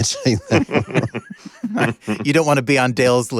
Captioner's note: laughter; laughs